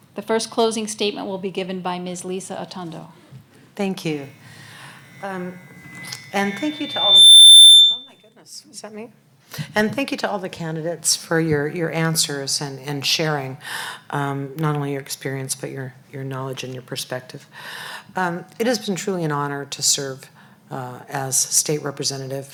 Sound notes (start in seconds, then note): 7.4 microphone feedback